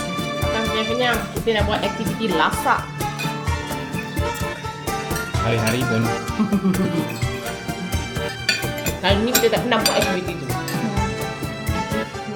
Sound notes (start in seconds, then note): 5.9 laugh